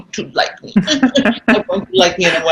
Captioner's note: laughing